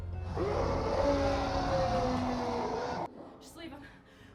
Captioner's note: roars